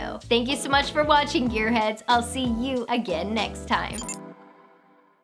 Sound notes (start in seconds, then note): 0.2 rhythmic music; 3.9 electronic beeping